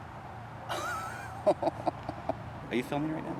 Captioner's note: Anubis chuckling